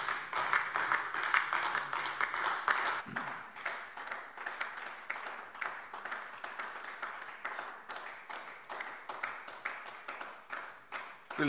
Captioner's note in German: Beifall AfD